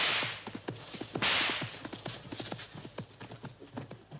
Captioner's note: whip cracking